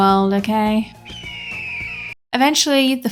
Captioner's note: eagle screech